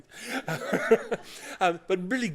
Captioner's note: laughter